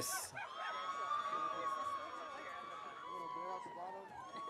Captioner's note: audience cheering